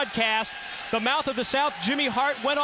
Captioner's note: crowd cheering